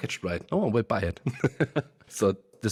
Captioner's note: laughs